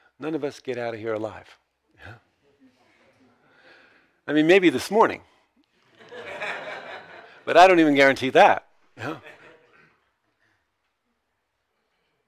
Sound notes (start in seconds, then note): 6.0 audiences laughs